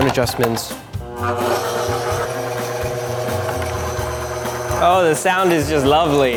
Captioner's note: machine grinding